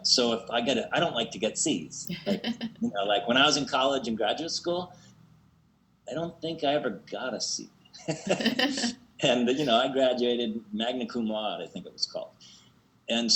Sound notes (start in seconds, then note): 2.0 laughs; 8.0 laughs